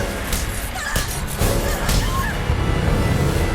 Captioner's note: girls scream in pain as they are attacked